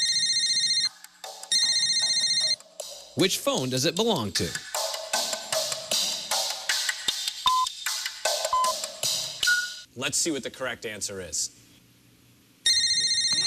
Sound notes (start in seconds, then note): 1.3 phone rings brightly; 8.5 electronic beeping; 12.6 phone beeps brightly